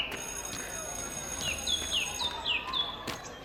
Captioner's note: college bell